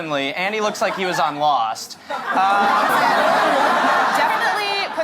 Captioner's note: laughter